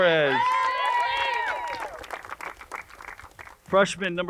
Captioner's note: crowd cheers and uploads